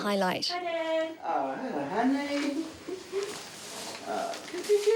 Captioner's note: chuckles